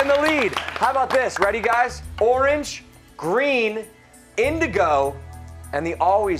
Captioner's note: applause